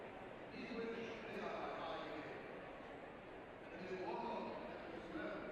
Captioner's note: speaking in foreign language